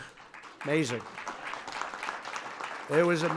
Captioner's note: applause